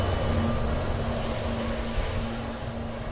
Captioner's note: wind howls, fades